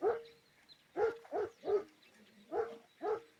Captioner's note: continues barking